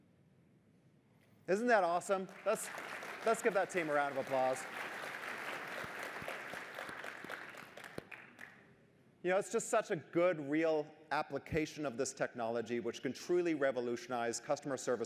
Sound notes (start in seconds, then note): 4.6 applause